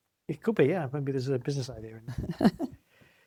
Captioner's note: laughs